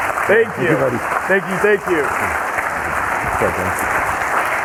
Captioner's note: audience clapping